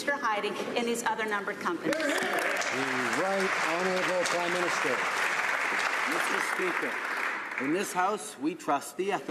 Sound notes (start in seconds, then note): 5.1 some Applause